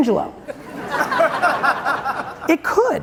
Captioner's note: audience chuckling